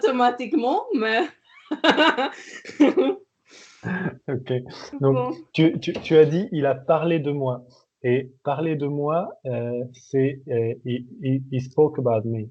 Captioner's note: laughing